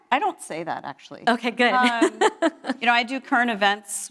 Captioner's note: laughs